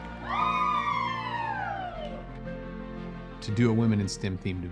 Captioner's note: all cheering